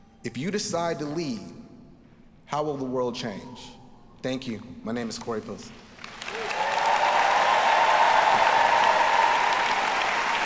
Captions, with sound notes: If you decide to lead, how will the world change? Thank you, my name is Corey Pilson. (audience applauding) (audience cheering)